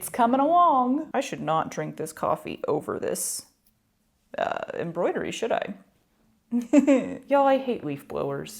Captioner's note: guilty chuckle